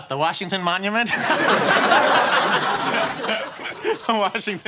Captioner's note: audience laughing